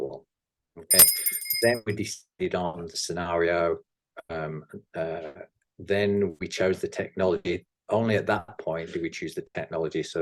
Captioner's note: bell rings